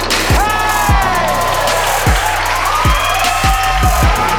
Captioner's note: spectators applauding